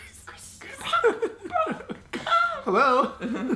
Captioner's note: laughs